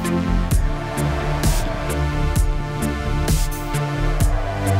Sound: can hear howler monkeys over music

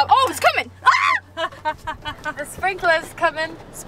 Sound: screams

